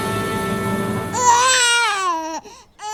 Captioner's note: cries like a baby